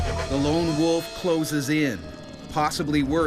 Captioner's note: howling; voiceover